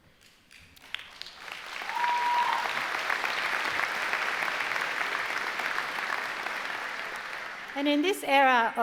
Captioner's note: applause